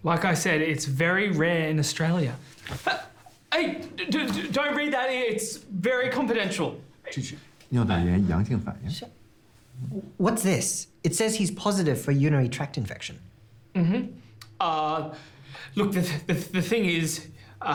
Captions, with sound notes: - Like I said, it's very rare in Australia. Hey, don't read that! It's very confidential. (Jian speaking in Mandarin) - What's this? It says he's positive for a urinary tract infection. - Look, the thing is-